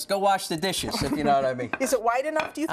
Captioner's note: laughter